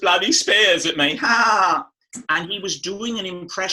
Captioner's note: laughs